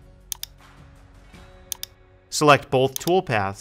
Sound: mouse clicking

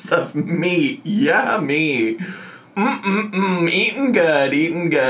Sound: hums

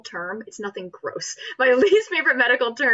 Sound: laughs

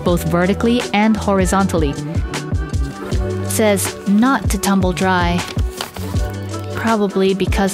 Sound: sound of tearing off the tag

